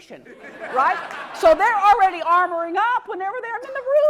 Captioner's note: laugh